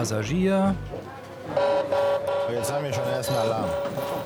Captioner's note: alarm signal